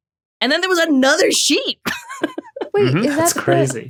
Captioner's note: laughs